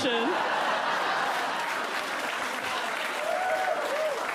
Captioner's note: audience laughs, claps